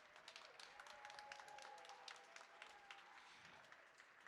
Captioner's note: audience cheering